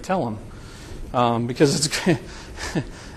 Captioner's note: chuckling